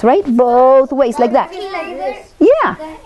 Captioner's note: chatting